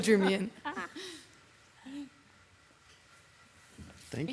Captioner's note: people laughing